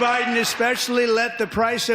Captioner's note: applause